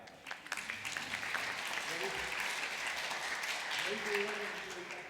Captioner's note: applause